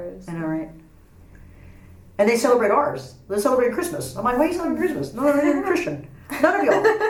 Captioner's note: laughs